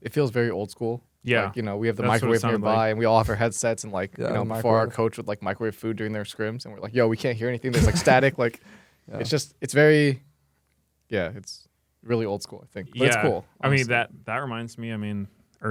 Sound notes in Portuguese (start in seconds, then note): 7.7 risos